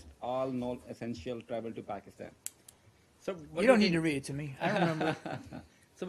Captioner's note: laughter